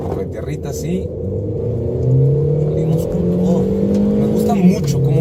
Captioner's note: engine revving